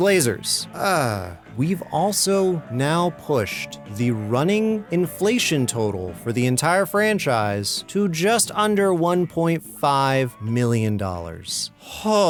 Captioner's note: sigh